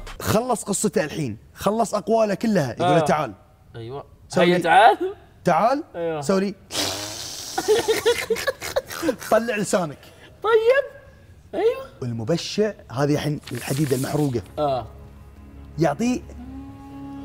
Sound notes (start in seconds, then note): 6.5 tongue chupsing 👅; 7.5 sort-laughing